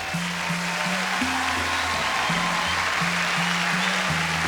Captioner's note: applause